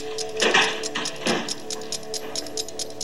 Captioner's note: door opening; ticking